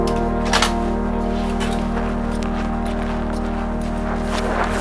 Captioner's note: door clicks; feet clack